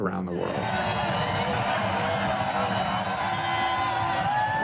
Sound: crowd shouts

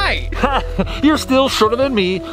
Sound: laughing

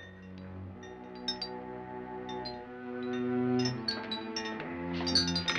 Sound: ominous music; chandelier rattling; door handle rattles

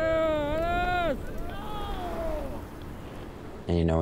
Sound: cheering in a foreign language

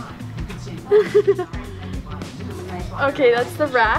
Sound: laughing

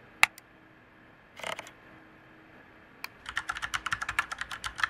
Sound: mouse clicks; keyboard taps

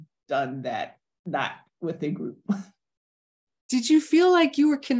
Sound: chuckles

